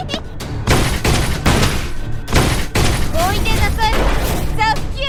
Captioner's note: cartoon Character laughing; gun firing; cartoon character speaking foreign language